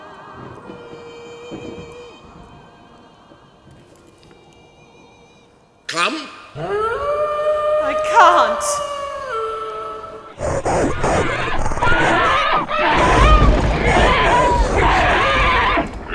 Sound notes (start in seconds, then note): 0.0 siren singing; 6.6 howling wolf; 10.3 snarling wolves